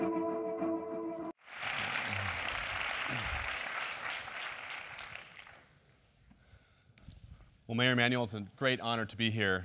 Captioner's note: applause